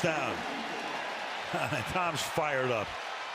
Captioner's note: cheering; chuckles